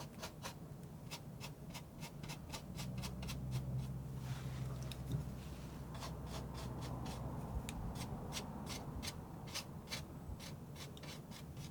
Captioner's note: scratching